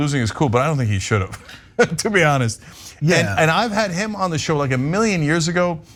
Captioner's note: laugh